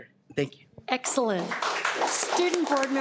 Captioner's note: audience applauding